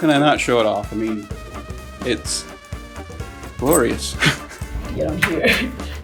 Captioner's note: laughs